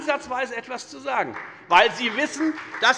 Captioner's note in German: Beifall bei der FDP und der SPD